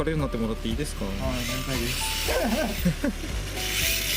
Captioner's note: laughs